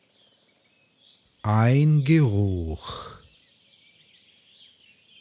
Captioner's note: german